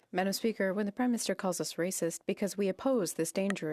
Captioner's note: speaking French